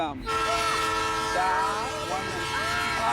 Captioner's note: train blares